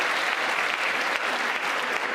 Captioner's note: applause